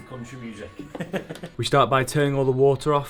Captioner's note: laughs